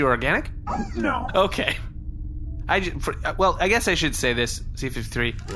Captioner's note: laughing